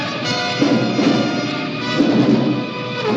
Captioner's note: grenade explodes